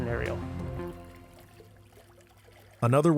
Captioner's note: water swooshing